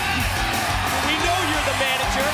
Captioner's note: crowd cheering